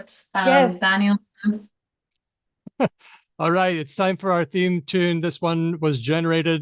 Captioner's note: laughs